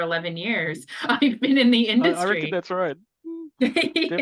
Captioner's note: laughs